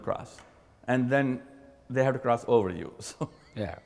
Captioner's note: laugh